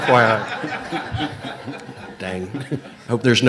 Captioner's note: audience laughs